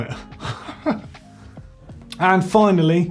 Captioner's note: laughing